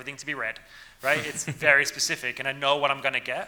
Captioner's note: laughing